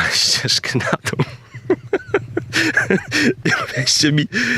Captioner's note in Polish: śmiech